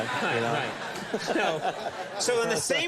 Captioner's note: audience laughs